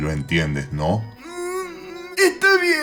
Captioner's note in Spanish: lloriqueos